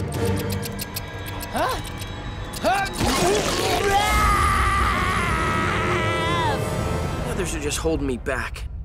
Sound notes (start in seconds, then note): 2.2 grunting; 3.0 screaming